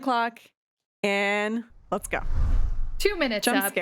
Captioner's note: scene swooshing